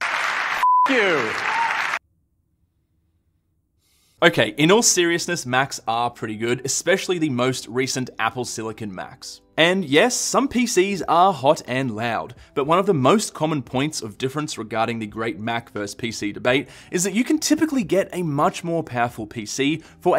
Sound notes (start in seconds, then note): 0.0 audience clap; 0.6 beep